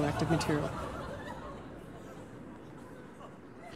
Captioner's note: studio audience laughing